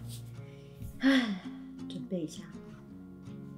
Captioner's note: sigh